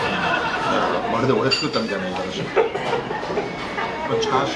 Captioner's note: laughs